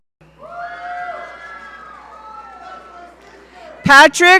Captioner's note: audience cheering